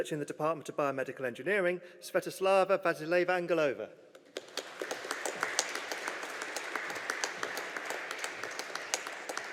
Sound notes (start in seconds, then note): 4.2 audience applauding